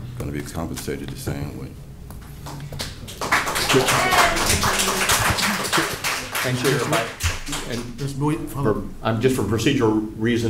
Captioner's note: applause